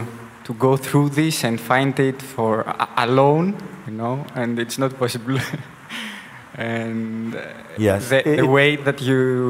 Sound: laughs

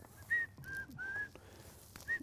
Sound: whistling

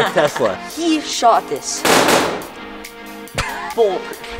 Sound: gunshots

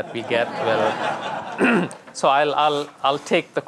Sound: audience laughing

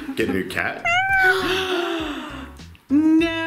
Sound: cat meows; gasps

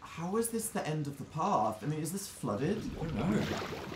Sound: whispering

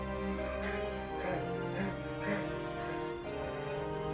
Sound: heavy breathing

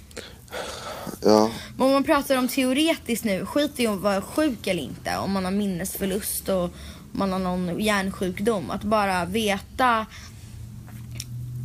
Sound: sigh

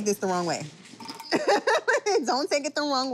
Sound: laughs

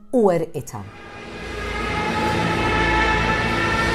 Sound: German bomber siren

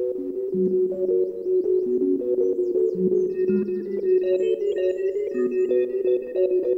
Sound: lovely birdsong; bleep bloop

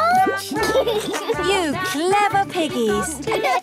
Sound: laughs

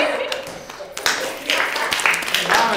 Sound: applause

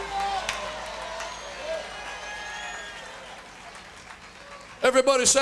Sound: crowd shouting and cheering

